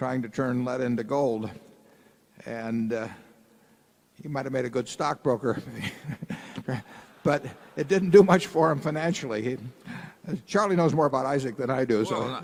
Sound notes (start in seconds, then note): 5.5 laughter